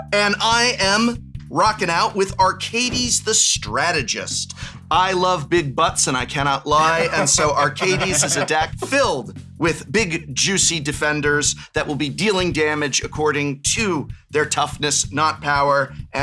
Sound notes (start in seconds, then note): 0.0 high pitched; 6.8 laughter